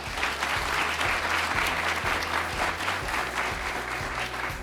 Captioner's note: applause